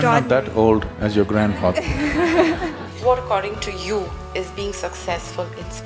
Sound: laughter

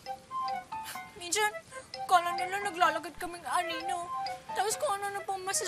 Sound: exhales

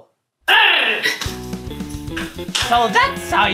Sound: platypus sound; fighting music

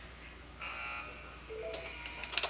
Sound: buzzer sounds

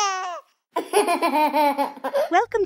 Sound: laughing; giggles

